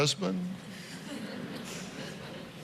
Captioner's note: laughter